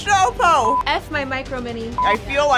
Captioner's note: beep